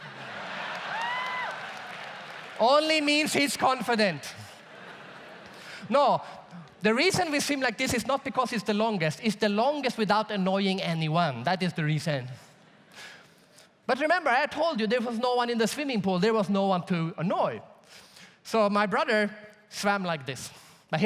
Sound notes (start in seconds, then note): 0.0 audience laughs and cheers; 4.4 audience laughs